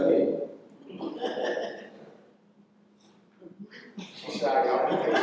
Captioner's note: laughter